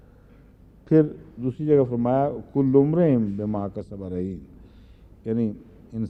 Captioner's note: Arabic